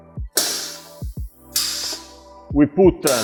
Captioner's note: metal clanking